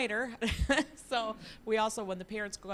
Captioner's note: laughing